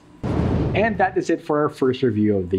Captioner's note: whooshing